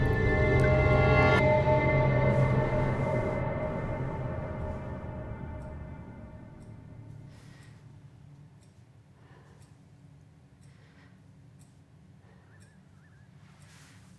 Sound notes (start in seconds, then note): 5.5 clock ticks